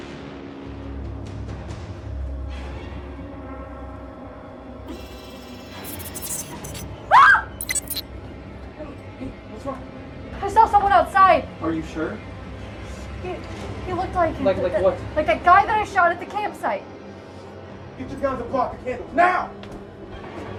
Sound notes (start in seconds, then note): 4.8 robotic sounds; 7.1 screams